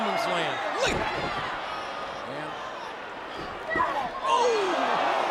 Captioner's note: Jerry exclaims